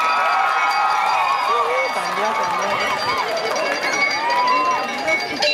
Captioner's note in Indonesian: Tepuk tangan